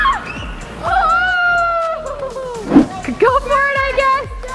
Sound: all cheer

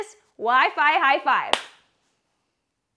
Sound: claps

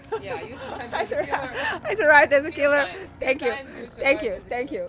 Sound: laughs

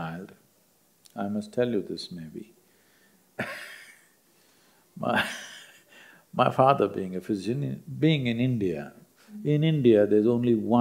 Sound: laughs

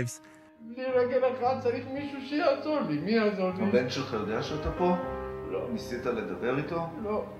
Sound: doctor and actor speak foreign language

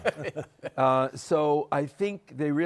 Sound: laughter

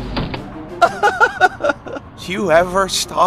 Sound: laughing

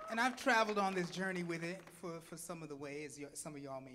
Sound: audience clapping

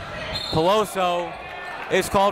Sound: whistle

